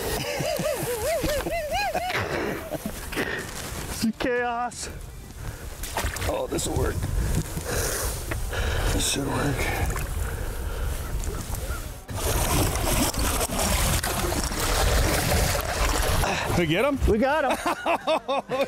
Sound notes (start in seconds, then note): 0.1 laughs; 11.0 water splashing; 17.5 laughs